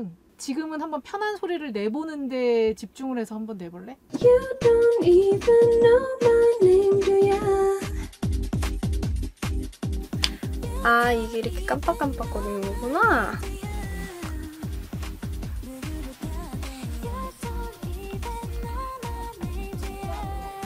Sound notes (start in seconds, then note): 10.2 click